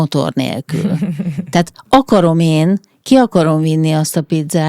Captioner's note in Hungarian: nevetés